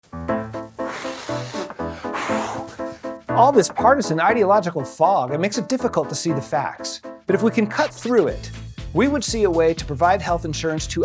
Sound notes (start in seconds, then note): 0.1 upbeat instrumental music; 0.3 blowing fog